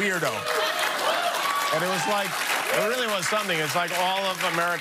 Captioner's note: laughing